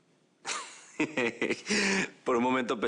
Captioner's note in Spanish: Ríe